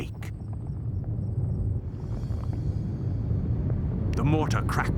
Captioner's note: ground rumbling